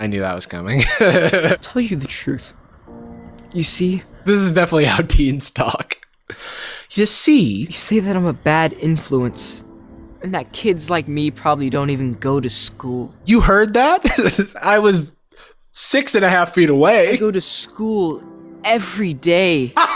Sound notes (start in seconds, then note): 0.8 laughs; 14.0 laughs; 19.7 Jarvis laughing